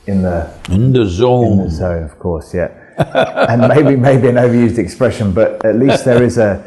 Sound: Sadhguru laughs

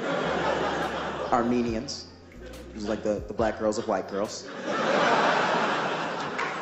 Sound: applause and Laughs

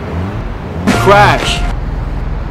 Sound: crash

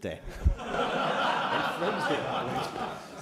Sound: laughter

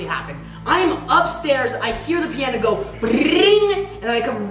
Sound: trills

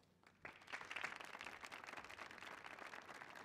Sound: applause

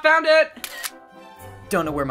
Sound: camera shutter snaps; snarkily

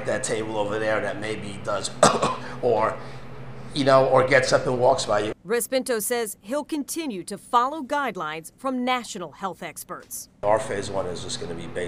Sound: coughs

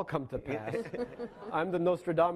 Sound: laughing

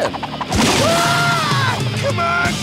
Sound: screaming

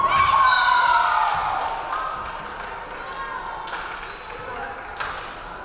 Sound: crowd cheering; referee whistling

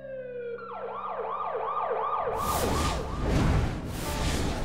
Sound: sirens blaring

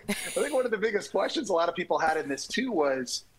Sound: laughter

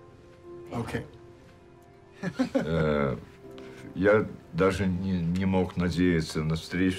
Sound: laughs

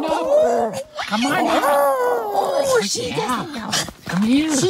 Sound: friendly growl; roar

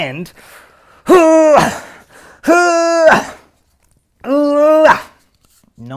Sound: grunting noises can be heard

